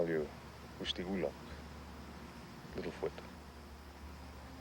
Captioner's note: speaks in foreign language